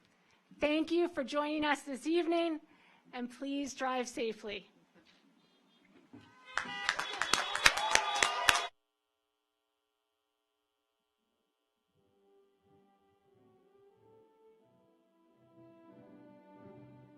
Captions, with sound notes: Thank you for joining us this evening and please drive safely. (car horns honking) (audience applauds) (slow orchestral music)